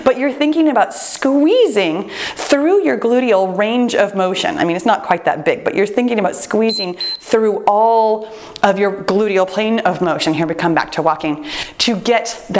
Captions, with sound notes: but you're thinking about squeezing through your gluteal range of motion. I mean, it's not quite that big, but you're thinking about squeezing (timer beeps) through all of your gluteal plane of motion, here we come back to walking,